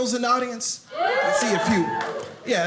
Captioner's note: audience cheers